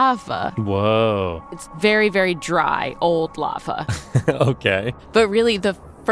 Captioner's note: laughs